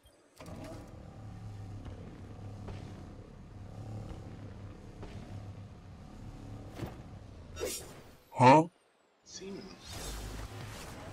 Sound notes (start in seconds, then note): 8.2 HUH? Sound effect